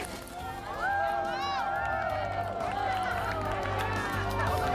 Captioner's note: crowd cheering; soaring music